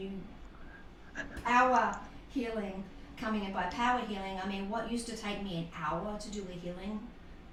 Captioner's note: laughter